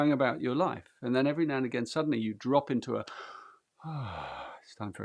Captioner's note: sighs